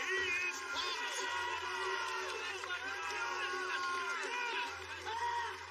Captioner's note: cheers and applause